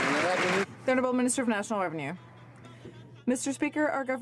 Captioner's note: some Applause